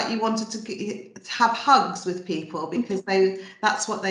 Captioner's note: laughs